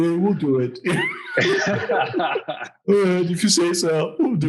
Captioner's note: all laughing